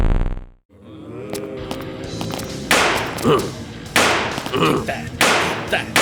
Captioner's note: zombies moaning; gun shots